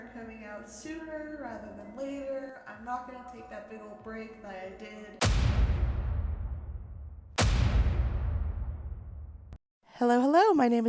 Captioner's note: boom